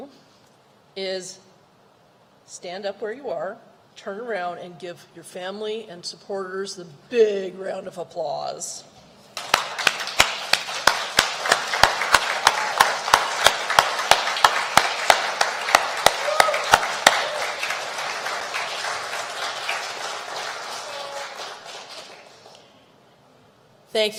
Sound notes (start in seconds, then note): 9.3 applause